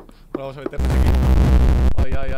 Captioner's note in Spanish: Ruido teletransportacion